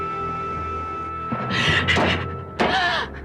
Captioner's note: terengah-engah